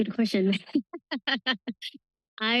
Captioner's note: laughs